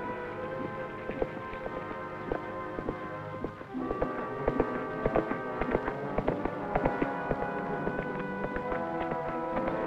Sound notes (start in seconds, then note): 0.8 galloping